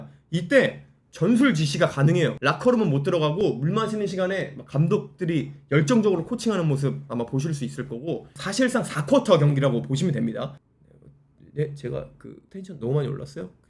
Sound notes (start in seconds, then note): none